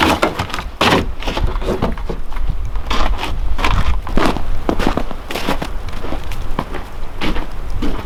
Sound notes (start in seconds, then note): 4.5 snow crunching